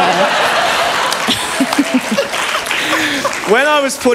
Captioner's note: laughter